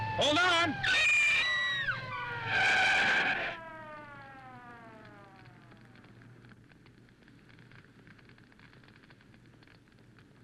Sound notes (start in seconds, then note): 0.2 Jane screams; 2.5 tires screech; 5.5 fire crackling